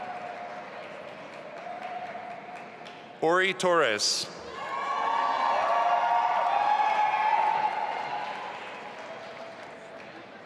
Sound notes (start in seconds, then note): 4.6 audience applauding and cheering